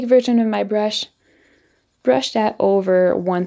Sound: pen scribbling

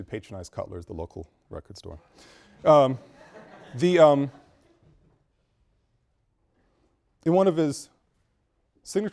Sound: students laugh

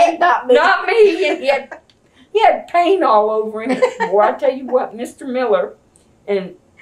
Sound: laughter

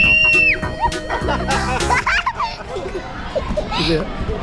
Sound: laughing

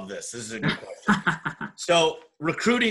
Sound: laughs

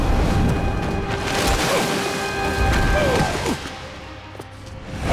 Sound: grunting

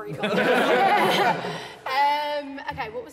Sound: all laughing

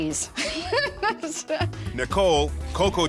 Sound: laughing

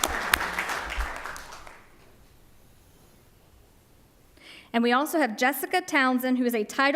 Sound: applause

